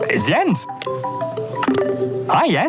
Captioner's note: chat chimes